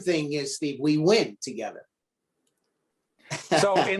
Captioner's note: laughing